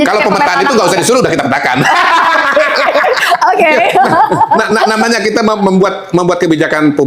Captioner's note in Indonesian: tertawa